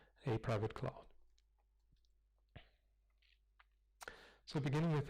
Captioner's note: pause